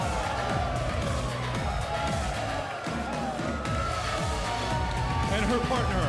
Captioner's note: crowd cheering